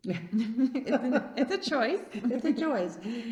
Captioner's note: laughs